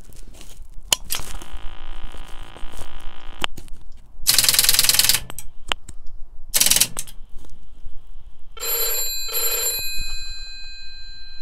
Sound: dialling noises

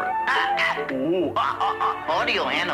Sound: parrot cawing

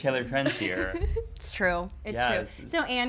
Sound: laughing

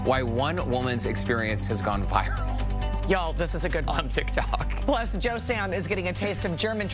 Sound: laughter

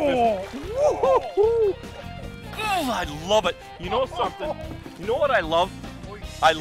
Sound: laughing

